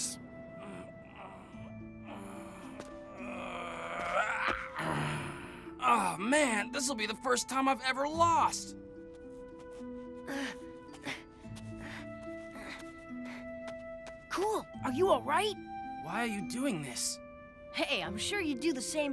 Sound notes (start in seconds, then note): 3.4 groaning; 11.7 panting